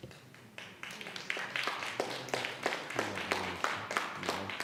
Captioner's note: audience applauds